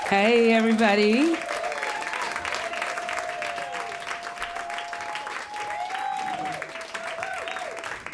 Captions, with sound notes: Hey, everybody. [applause]